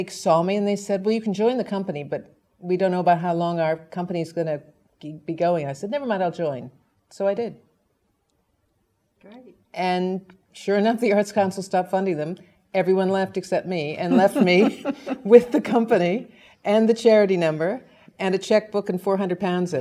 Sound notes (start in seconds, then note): 14.1 laugh; 18.8 laugh